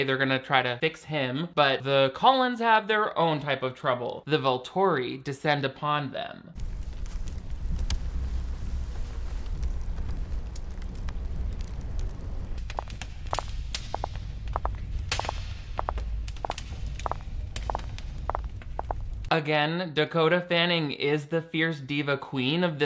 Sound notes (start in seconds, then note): 7.1 fire crackling; 13.2 footsteps tapping